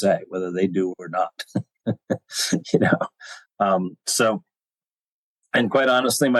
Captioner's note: chuckler